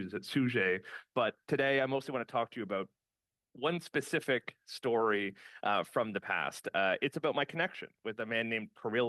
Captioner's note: speaking French